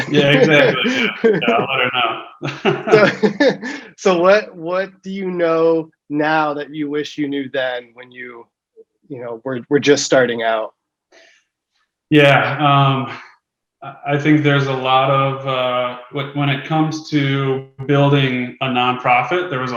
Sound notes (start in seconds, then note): 2.6 both laugh